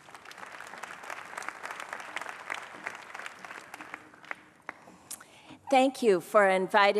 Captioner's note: applause